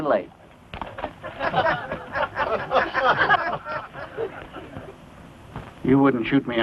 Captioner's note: laughter